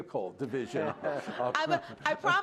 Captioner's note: laughter